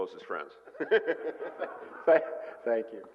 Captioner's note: laughter